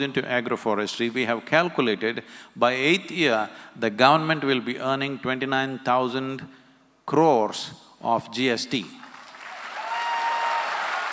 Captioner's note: applause